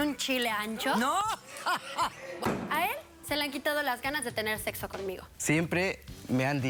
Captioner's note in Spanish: risas